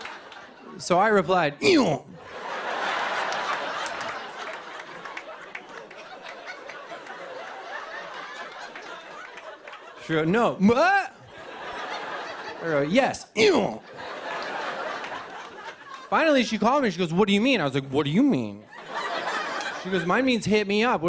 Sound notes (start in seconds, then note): 2.2 laughter and applause